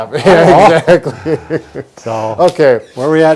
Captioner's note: laughter